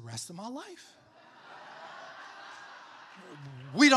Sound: crowd laughing

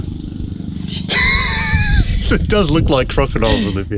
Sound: laughs

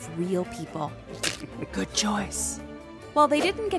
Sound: cracking

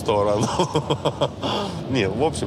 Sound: laughs

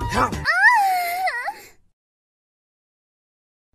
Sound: screams very harder

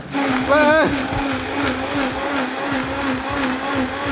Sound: blender grinding

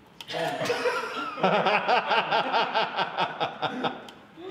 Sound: laughter

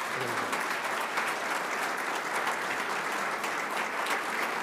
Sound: audience applauding

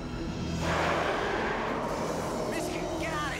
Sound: roars

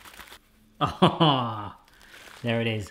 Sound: laughing

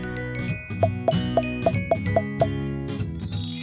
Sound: cheerful music; plopping

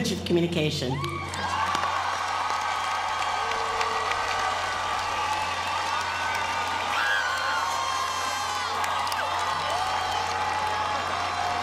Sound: applause

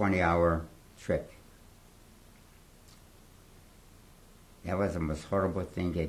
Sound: pauses for 3 seconds

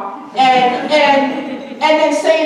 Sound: audience chuckling

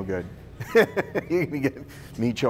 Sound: laughing

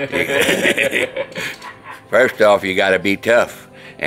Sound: everyone laughing

